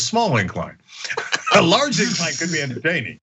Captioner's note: laugh